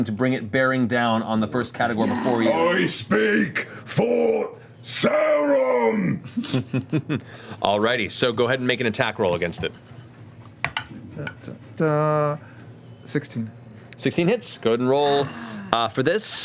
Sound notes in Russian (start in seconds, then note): 5.0 кричит; 6.2 смеётся